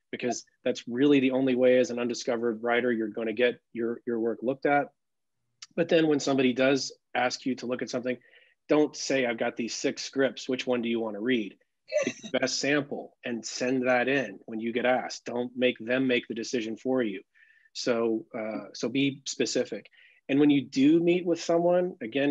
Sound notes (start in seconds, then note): 12.0 laughs